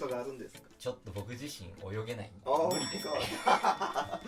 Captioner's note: laughs